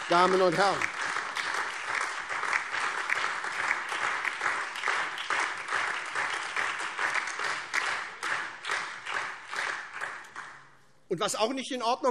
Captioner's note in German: Beifall SPD, AfD, Freie Demokraten und DIE LINKE